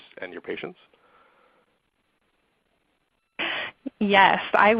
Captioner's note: silence